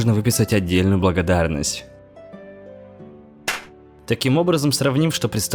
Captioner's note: slap